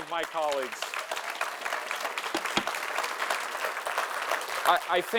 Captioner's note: audience applauding